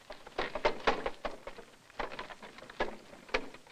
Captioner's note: wagon sound